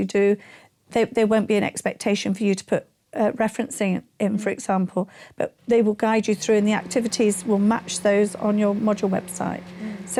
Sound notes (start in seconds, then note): 6.0 microwave humming